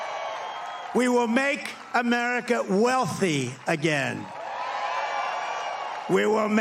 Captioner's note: applause